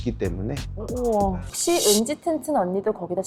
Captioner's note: uneasy sound effect